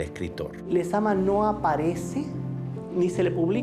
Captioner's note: speaking Spanish